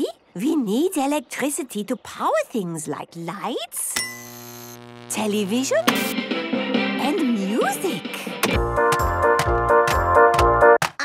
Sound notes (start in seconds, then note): 3.9 light bulb buzzing; 4.2 TV static, show music; 8.4 clicks, music plays